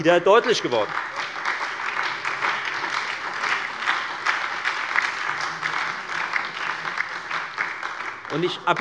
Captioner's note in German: Beifall bei der FDP, der SPD und der LINKEN